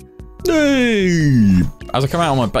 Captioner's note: sassy Yawning